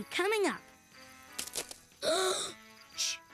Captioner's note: cracking branches outside; gasp